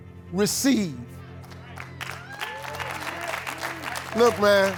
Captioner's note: crowd applauds